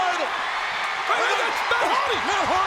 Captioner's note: audience cheering and clapping